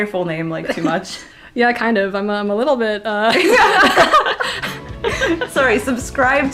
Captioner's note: both laugh